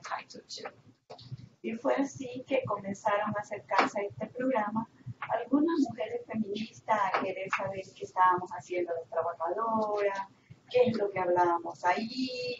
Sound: Spanish

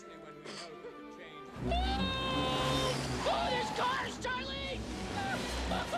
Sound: Russ, Julie Chuckling; Goldberg Screaming; continues Screaming

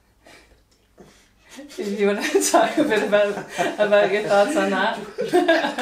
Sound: all laugh

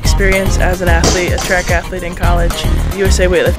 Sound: feet stomping; weights clanging

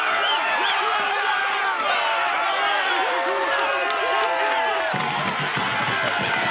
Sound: all cheering; upbeat music

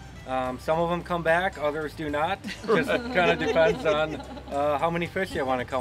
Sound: laughing

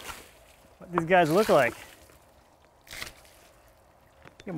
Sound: water splashing

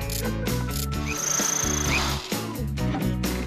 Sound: whirring

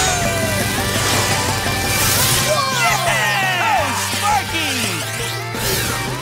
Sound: cheering

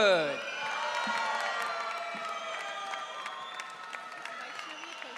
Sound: audience cheering

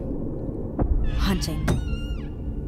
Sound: door creaks

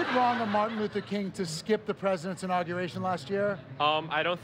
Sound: laughter

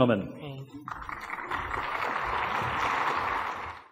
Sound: applause

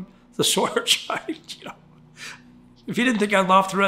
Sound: chuckles

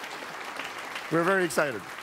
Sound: applause

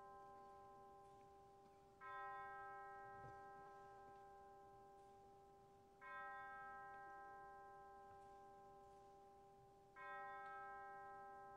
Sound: bells tolling

